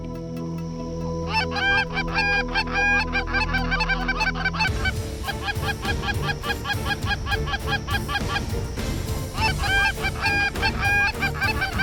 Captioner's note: goose calls